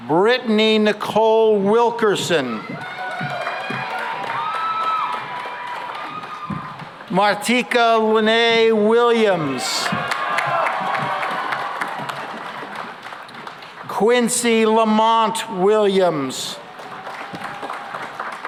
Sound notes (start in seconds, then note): 2.4 cheering and applause; 9.1 cheering and applause; 16.5 applause